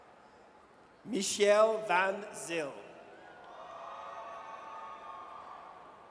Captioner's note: audience cheers